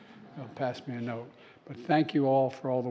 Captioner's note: laughter